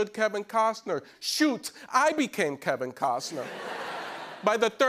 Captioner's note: laughter